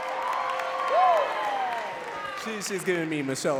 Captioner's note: audience cheering and clapping